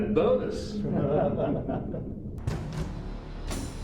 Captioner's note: group laughs; slow dramatic music